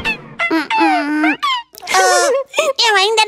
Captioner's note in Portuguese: Risos